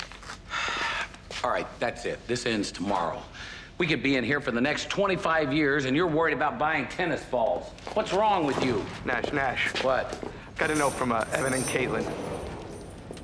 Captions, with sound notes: - (sighing) All right, that's it. This ends tomorrow. We could be in here for the next 25 years, and you're worried about buying tennis balls! What's wrong with you? - Nash. Nash. - What? - Got a note from, uh, Evan and Caitlin.